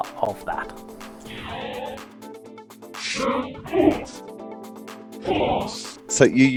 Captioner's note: synthesized voice